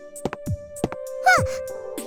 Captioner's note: surprised gasp